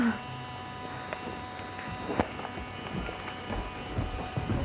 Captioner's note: phone vibrating